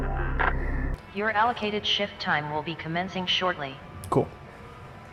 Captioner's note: Hab Voice